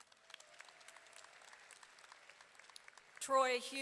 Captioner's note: audience applauding